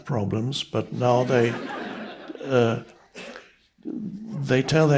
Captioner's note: audience members laughing